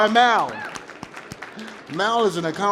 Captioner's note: applause